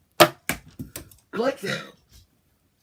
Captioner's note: while burping